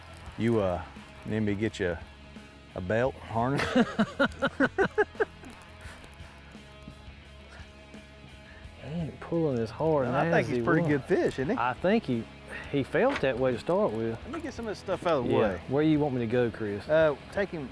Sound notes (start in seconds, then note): 3.5 laughing